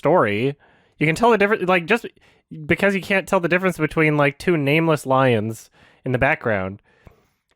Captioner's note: stammers a bit